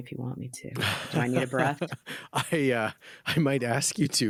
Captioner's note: laughing